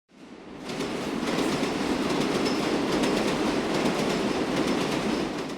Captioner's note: subway cars clicking on tracks